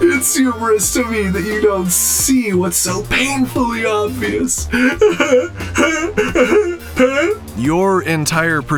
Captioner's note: robotic laugh